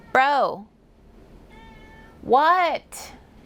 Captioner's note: meow!